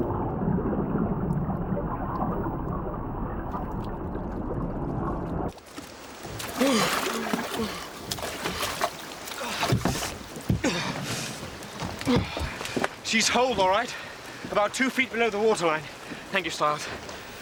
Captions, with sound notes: (SHIVERS) She's holed, all right. About two feet below the water line.